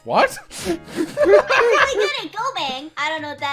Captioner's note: laughter